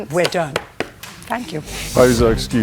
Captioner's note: raps desk with papers